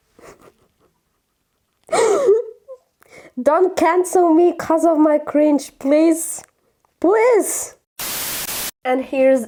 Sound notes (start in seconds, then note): 1.9 crying laughter